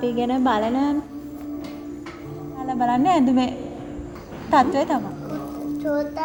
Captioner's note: speaking in a foreign language